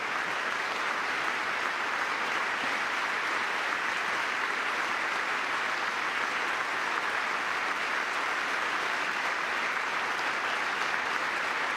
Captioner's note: applause